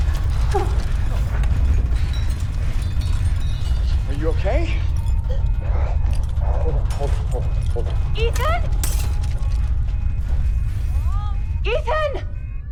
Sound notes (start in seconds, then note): 0.1 whimpers; 8.3 glass breaking